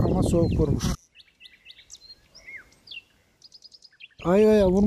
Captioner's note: bird sounds